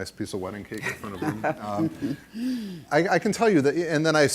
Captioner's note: laughter